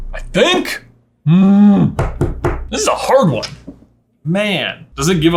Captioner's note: growling